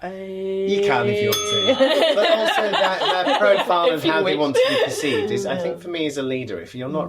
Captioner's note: ding